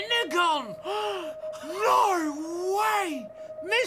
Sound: gasping

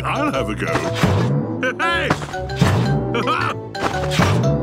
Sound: laughs

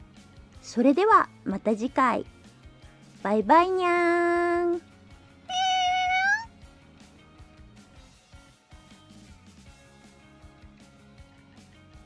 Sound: meow

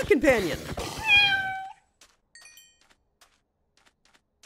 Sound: cat meowing

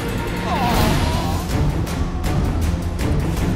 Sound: groan

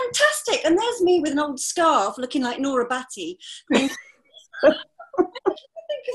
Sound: laughter

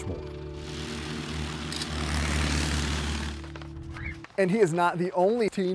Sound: engines rumbling

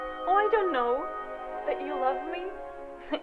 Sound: from tv

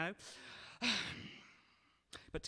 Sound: exasperated sigh

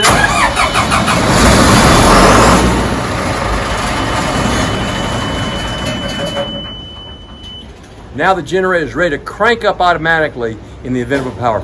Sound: sound of loud generator starting up; beeping

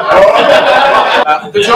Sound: laughter

